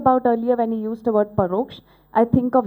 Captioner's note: non-english speech